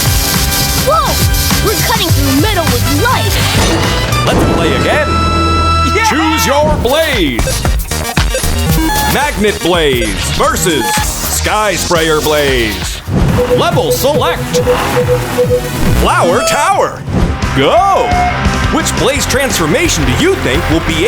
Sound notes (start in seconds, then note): 13.3 beeping